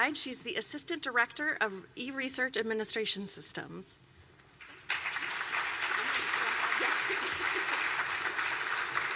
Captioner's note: clapping